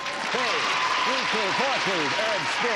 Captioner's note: applause